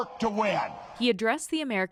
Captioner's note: cheering; applause